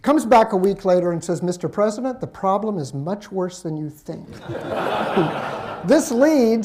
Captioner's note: laughter